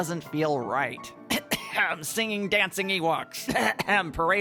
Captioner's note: coughs